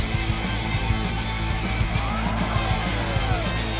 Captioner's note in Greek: χειροκρότημα